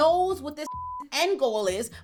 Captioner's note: beep